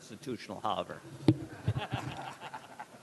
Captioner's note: laughter